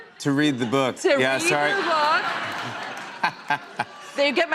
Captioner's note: laughter